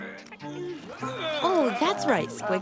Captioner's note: groaning